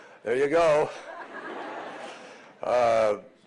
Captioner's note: laughter